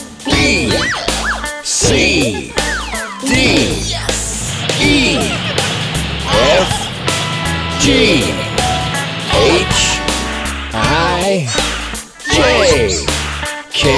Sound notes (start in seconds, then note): 5.0 giggling